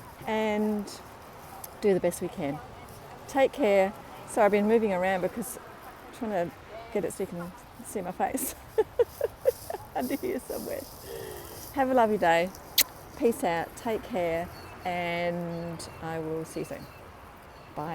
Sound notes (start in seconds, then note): 8.3 laughing; 12.6 smooches